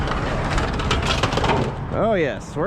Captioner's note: crunch sounds